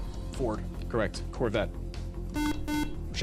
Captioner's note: beep